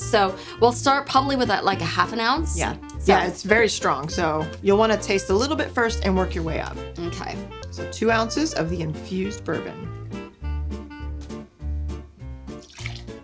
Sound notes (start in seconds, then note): 9.8 liquid pouring; 11.7 upbeat music; 12.6 liquid pouring